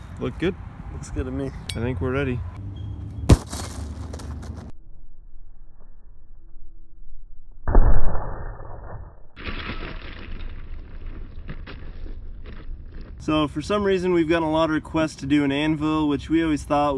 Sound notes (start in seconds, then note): 3.3 pumpkin smashes; 9.4 gravel moves